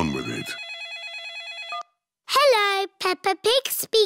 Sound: phone rings

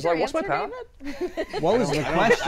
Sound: laughing

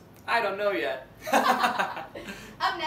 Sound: laughs

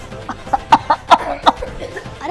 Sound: coughing

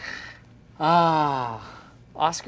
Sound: sighs

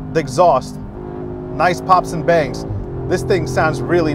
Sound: car engine revving

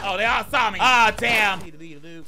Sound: gun blasting

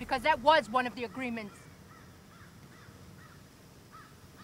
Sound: tank rumbling

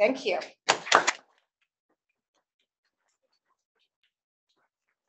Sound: audience clapping

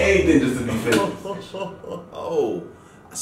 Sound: mock laughing

